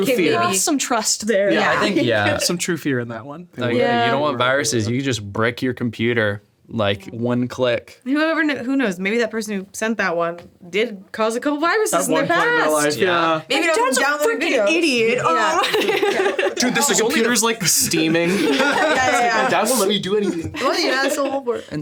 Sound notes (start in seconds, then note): 15.2 laughs